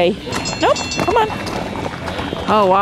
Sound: bell ringing

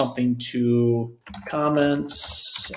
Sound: typing

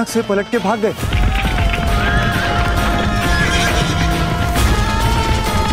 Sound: horses neighing and galloping

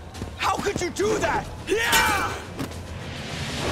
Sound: grunting

